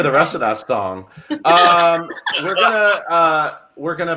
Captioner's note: laughing